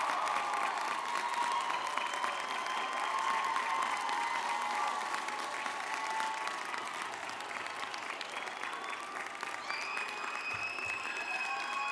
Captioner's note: cheering